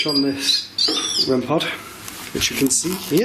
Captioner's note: beeping